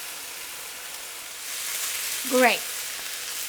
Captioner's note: pan sizzling